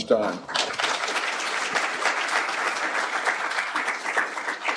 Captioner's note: applause